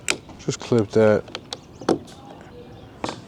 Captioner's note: wood clunking